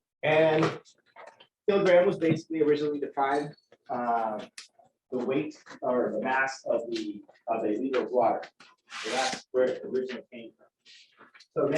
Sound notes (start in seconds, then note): none